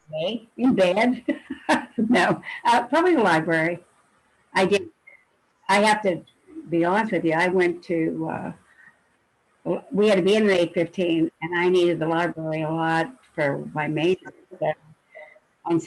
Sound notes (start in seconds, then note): 1.3 laughing loudly